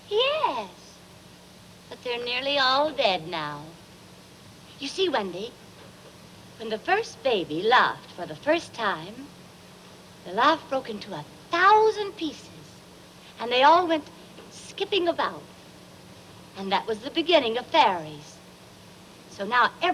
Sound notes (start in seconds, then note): none